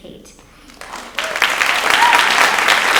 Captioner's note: audience applauds